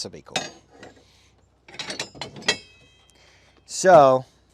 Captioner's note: metal clanking